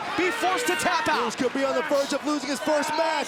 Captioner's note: crowd chatter